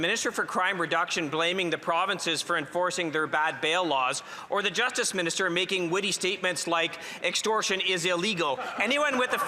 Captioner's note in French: voix de l'interprète